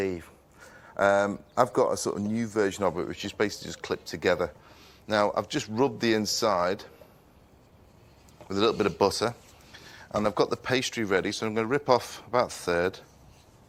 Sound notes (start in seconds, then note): none